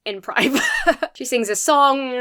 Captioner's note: chuckles